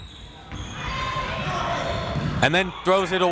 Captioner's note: crowd members shouting